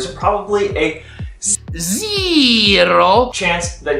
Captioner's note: in funny voice